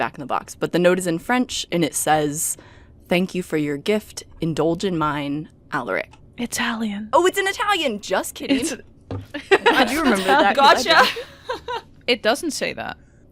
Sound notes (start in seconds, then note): 6.5 whisper; 9.3 laughter